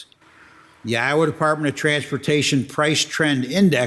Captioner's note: none